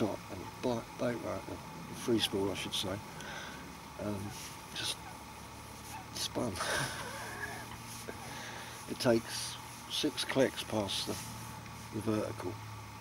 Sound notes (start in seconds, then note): 6.6 laughter